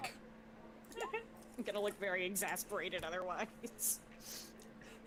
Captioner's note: laughs